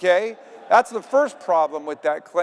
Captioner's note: audience laughing